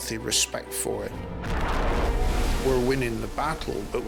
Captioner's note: water whooshing; waves crashing